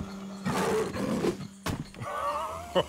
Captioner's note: growls; laughs